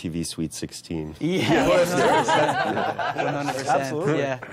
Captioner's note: all laughing